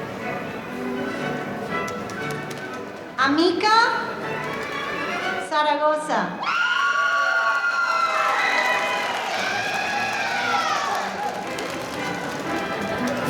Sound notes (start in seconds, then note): 6.4 audience cheering